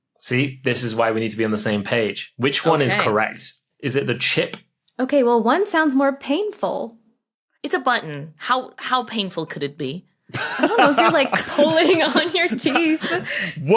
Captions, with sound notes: See, this is why we need to be on the same page. Okay. Which one is correct? Is it the chip? Okay. Well, one sounds more painful. It's a button. How painful could it be? (laughs) I don't know. If you're pulling on your teeth.